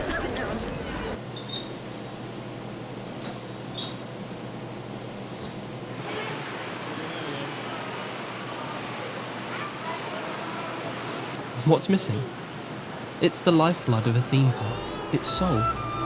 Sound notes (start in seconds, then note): 0.0 crowd noise; 1.4 sqeaky swing